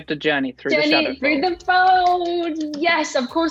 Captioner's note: Amita claps